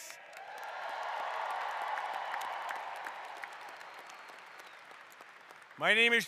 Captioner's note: applause